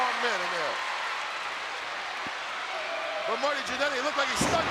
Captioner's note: audience cheering